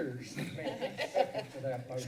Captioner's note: laughs